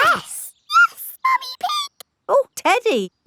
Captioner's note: in high-pitched voice